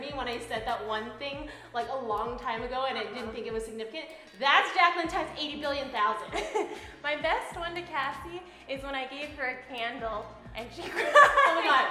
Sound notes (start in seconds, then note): 6.5 laughs